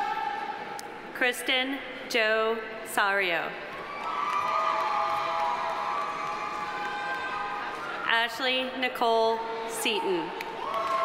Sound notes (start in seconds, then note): 3.8 audience cheering; 3.9 audience applauding